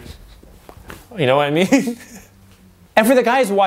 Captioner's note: chuckles